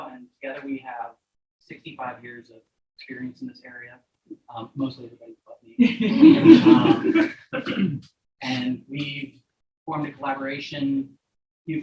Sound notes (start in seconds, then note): 5.8 audience members laughing